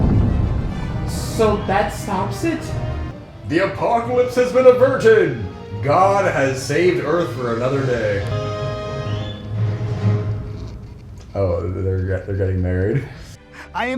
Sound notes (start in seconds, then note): 11.4 passionless kiss